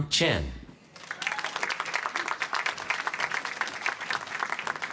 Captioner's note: applause